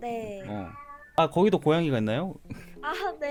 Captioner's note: meow~